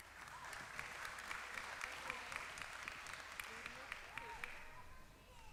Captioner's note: applause